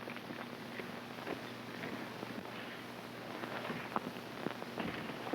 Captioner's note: none